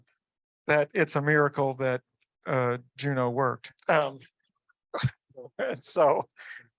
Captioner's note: chuckles